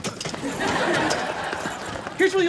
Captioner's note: laughs